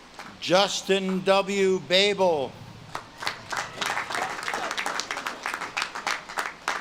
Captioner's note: audience claps and cheers